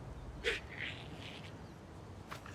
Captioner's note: giggling